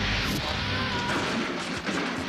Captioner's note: screams